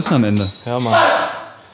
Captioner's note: guy shouts